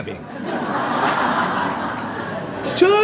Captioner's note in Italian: Risata